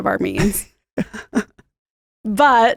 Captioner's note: laughs